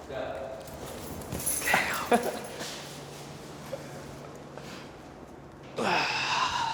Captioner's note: jewelry clangs; guys laugh; guy sighs